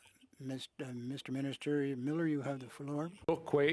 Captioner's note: speaking French